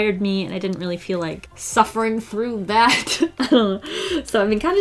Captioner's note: laughs